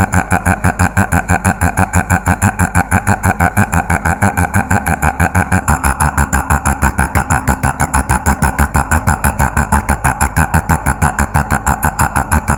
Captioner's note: laugh